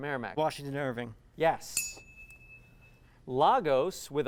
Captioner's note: ding